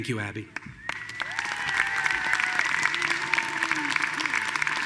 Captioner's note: audience applauding